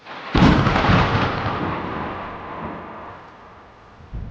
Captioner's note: thunder rumbling